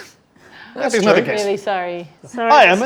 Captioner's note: overlapping chattering